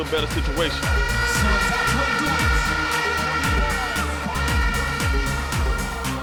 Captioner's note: muffled announcing and horns blowing